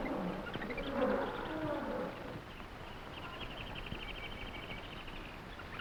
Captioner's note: animals chattering; gorillas groaning